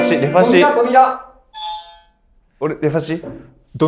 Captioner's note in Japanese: 正解音